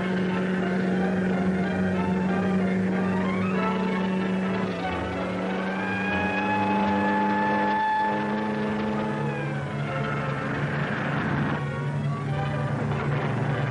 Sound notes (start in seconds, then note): 5.9 police siren blaring; 10.2 dramatic music